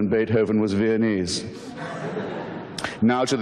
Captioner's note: audience laughter